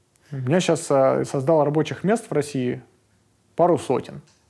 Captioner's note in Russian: none